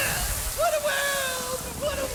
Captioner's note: sizzling